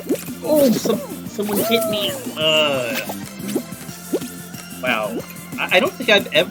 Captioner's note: groan